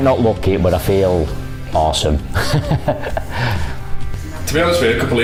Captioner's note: laughs